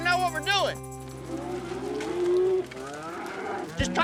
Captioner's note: mooing